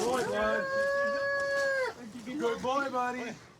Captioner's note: wails